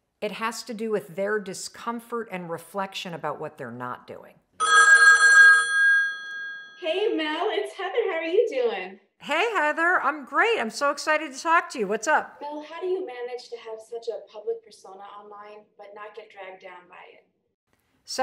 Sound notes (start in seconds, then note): 4.6 phone rings